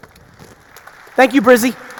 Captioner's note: audience applauding